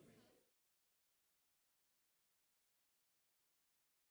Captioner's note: audio silence